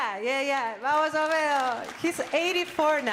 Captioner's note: audience applauding